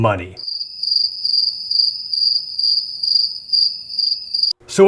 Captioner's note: cricket sound